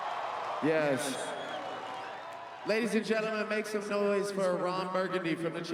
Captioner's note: cheering and Applause